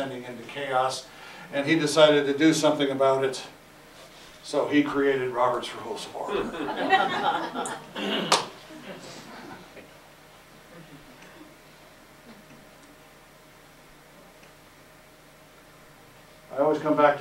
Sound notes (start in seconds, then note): 6.3 audeince Laughter